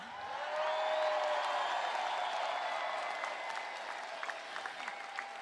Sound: applause

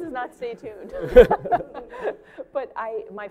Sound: laughter

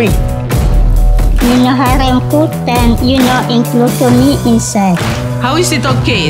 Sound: foreign language

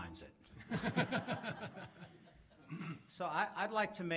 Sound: laughs

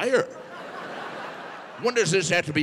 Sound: audience laughing

